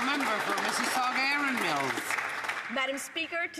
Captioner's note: some Applause